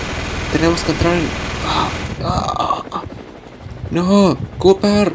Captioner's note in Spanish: Sonidos de dolor